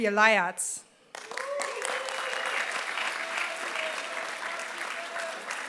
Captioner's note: applause